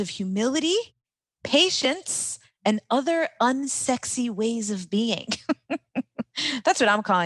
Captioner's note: laughs